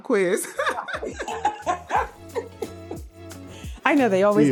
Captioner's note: laughter